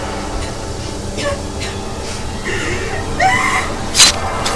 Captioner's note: coughing; screaming; blade slicing